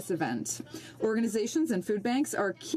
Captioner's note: speaking French